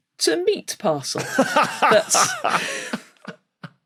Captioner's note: laughs heartily